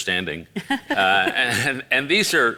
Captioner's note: laughs